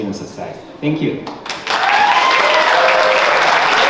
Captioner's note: audience applause